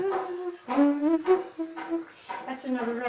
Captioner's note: humming